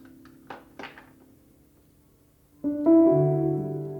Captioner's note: statue clanking; sentimental music